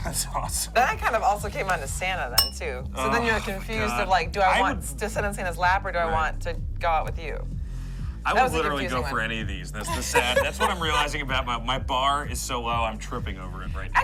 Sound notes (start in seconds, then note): 9.8 laughs